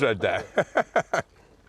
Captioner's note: Ming laughs